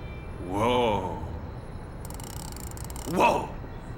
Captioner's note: clicking